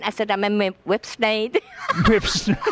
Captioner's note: laughs